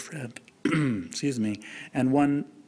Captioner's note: clears throat